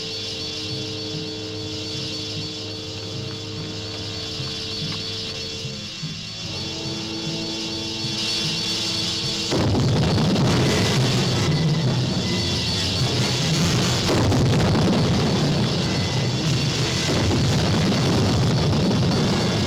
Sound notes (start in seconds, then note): 9.4 explosions rumbling; 9.4 intense music